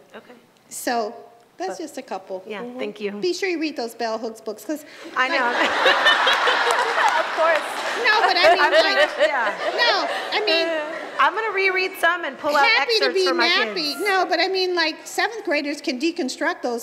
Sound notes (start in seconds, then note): 5.2 Chirlane and audience erupt in laughter